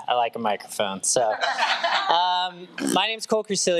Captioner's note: trustees laughs